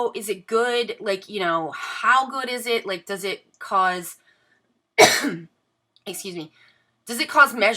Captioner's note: coughs